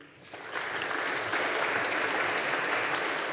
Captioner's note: audience applauding